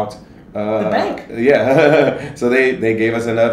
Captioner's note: laughs